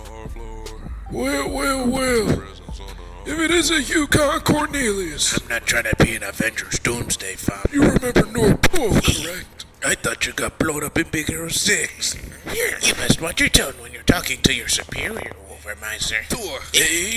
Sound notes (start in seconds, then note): 11.9 chuckles